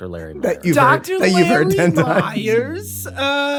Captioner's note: laughing